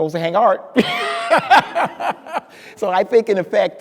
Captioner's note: speaker laughing